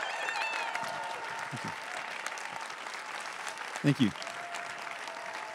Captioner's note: everyone cheering and applauding